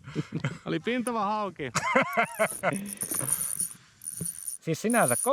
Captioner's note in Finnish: naurua